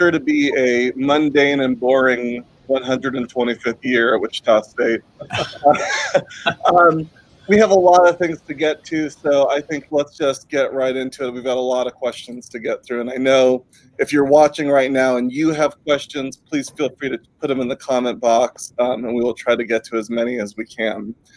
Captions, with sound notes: COMMUNICATION GOING AND WHAT IS SURE TO BE A MUNDANE AND BORING 125th YEAR AT WICHITA STATE. (LAUGHTER) WE HAVE A LOT OF THINGS TO GET TO, SO LET'S JUST GET RIGHT INTO IT. WE HAVE A LOT OF QUESTIONS TO GET THROUGH. AND I KNOW IF YOU'RE WATCHING RIGHT NOW, AND YOU HAVE QUESTIONS, PLEASE FEEL FREE TO PUT THEM IN